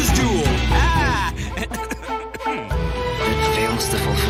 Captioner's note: cough; khụ